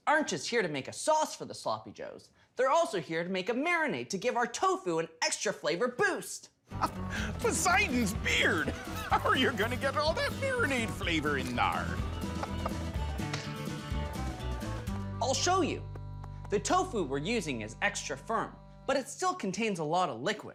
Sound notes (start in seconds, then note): 6.8 chuckles